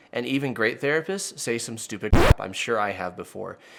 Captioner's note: record scratching